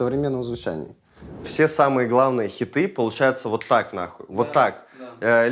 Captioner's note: snaps fingers